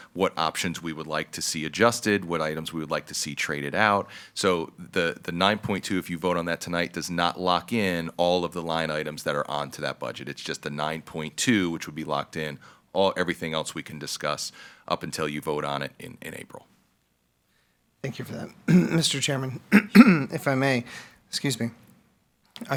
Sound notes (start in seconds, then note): 19.6 clears throat